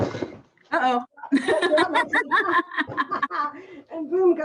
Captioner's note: laughing